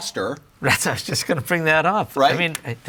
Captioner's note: laughs